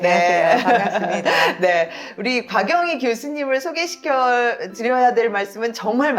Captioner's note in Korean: 웃음